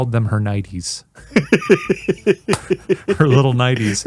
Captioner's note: laughing